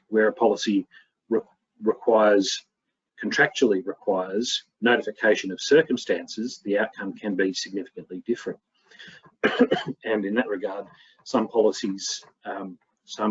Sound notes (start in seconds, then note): 9.4 coughs